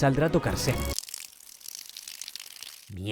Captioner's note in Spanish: sonido de orinarse encima